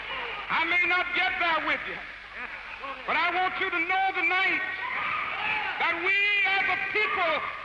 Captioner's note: cheering and applause